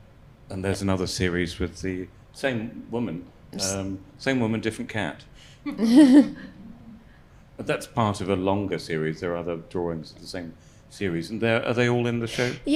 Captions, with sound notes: And there's another series with the same woman. Same woman, different cat. (panel laughs) But that's part of a longer series. There are other drawings of the same series, and are they all in the show?